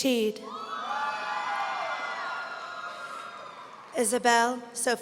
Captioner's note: audience cheering